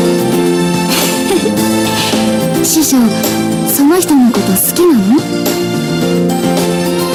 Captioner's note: giggles